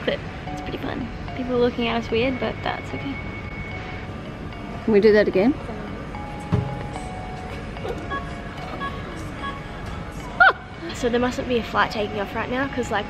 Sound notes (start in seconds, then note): 8.2 laughs